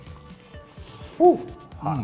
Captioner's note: chomping